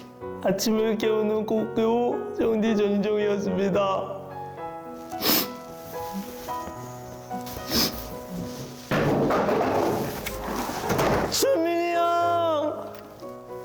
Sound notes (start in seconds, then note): 9.0 sound of chair falling over